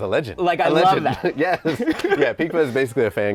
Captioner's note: laughing